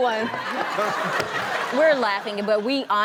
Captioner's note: audience laughs